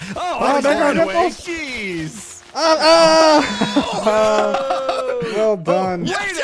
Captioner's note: shouting excitedly